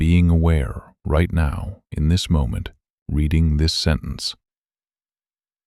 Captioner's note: low voice